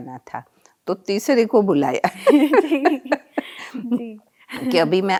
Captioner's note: they laugh